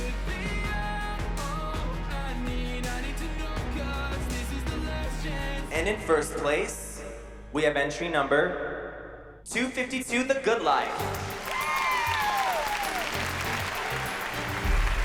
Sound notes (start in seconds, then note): 10.8 dramatic music playing; 11.0 cheering